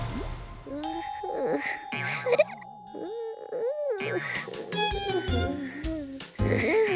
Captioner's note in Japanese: ヨエルのうとうとする声